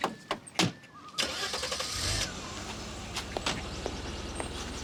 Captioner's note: car engine cranking